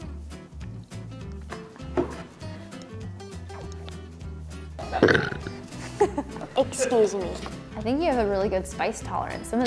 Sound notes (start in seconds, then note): 4.7 burps; 5.8 interviewer chuckles